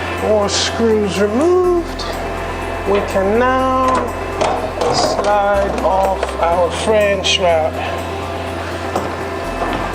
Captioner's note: metal banging